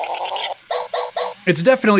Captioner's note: electronic rising growling noises; electronic barking noises